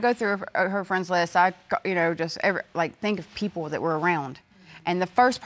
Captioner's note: stuttering